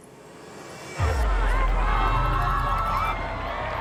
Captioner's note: crowd commotion